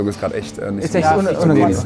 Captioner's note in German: Stimmengewirr